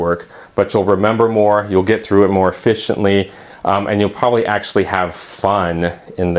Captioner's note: uumm